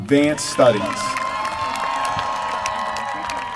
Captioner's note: applause